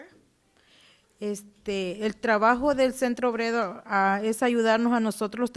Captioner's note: speaking Spanish